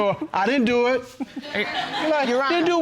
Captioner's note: audience laughing